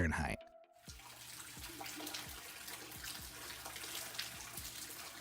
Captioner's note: water dripping